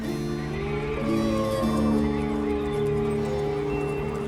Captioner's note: wolf howling